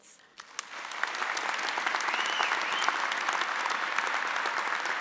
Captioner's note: audience applauding